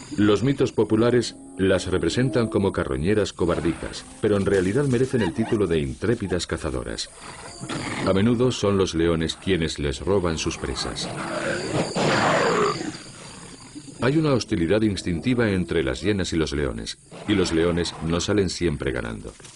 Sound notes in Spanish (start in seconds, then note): 11.6 gemido